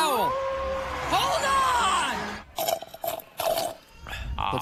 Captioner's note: wolf howling; sipping of drink